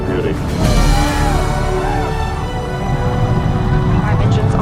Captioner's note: crowd Cheers